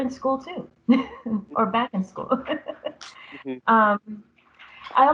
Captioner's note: laughter